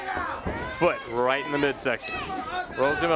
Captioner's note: crowd chatter